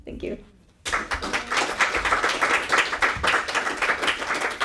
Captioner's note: audience applauding